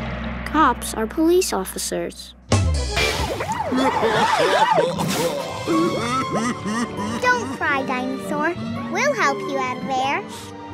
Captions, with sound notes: Cops are police officers. [siren blaring, crying] [crying] Don't cry, dinosaur, we'll help you out of there.